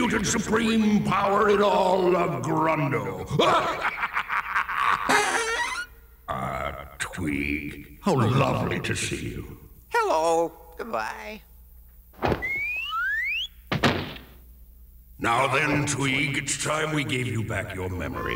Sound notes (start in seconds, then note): 3.2 laughs